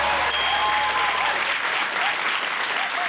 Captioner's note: ding!; cheering, applause